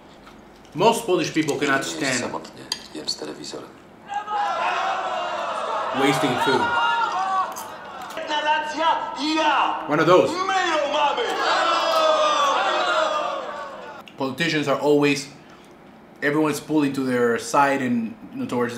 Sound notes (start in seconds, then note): 3.6 foreign language; 4.0 crowd screaming; 8.6 foreign language; 11.5 foreign language